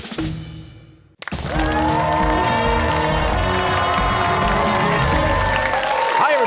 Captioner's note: cheers and applause